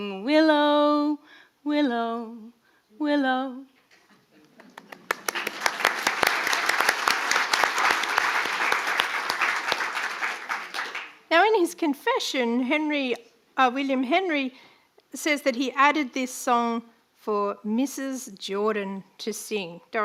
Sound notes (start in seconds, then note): 4.5 audience applauding